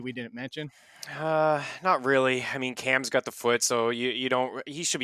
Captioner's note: sighs